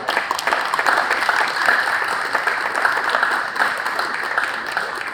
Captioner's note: applause